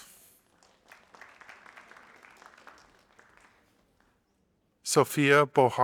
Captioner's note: audience applauding